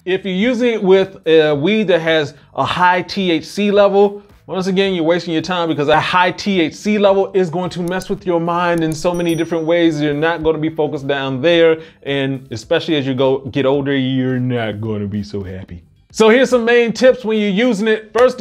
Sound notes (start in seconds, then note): 8.8 bell ringing